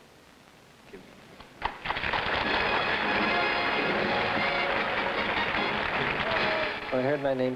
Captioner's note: audience applauding